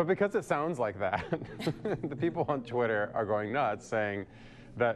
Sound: laughter

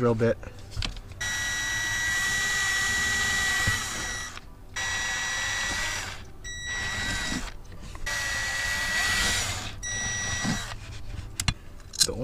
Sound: drilling

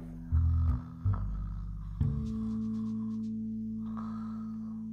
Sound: Kim snoring

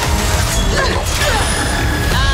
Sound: grunting

